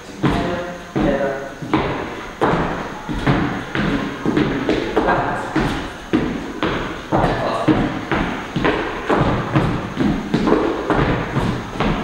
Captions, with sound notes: Together, together, together, back. (dancing sounds)